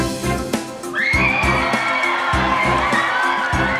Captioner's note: Gritos e aplausos